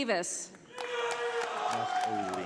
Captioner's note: audience applauding